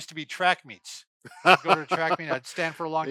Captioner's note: laughs